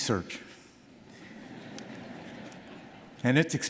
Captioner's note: audience laughing